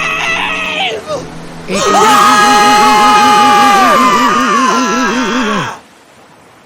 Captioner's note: screaming